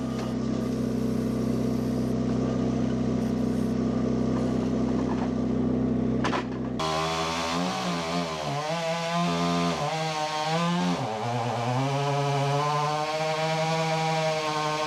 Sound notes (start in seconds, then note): 0.0 engine rumbling; 6.7 tree cutter whines